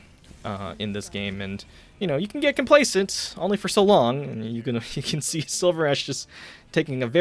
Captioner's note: chuckling